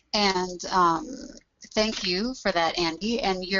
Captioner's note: voiceover